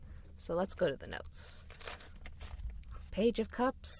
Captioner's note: pages turning